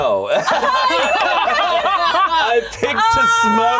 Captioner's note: all laughing